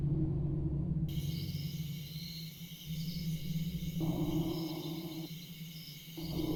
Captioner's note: A calm night of crickets